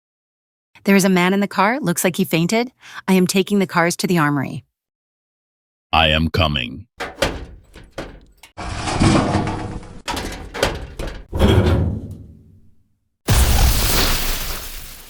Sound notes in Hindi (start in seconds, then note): 8.9 फटती हुई